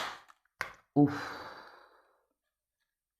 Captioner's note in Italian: sospiri